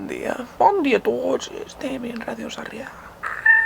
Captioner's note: Specific accent